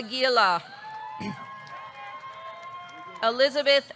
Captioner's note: audience cheering; audience clapping